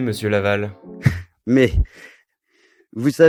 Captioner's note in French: rire